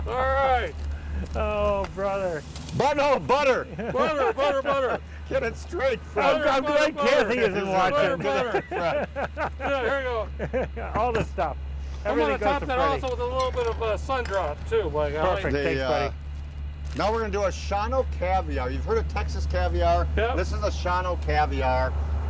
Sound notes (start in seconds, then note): 0.0 laughs; 6.8 laughs